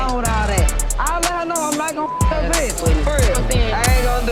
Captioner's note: beep